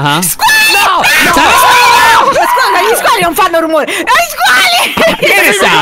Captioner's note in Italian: legge, urlando; tutti urlano